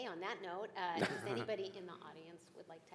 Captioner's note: chuckling